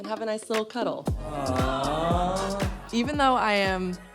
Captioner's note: group exclaiming